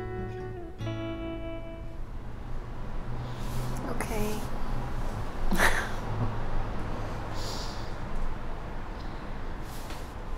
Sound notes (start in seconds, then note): 2.0 car passes; 5.5 chuckles